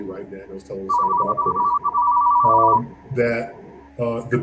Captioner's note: phone ringing